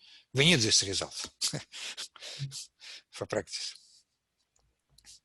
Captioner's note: laughs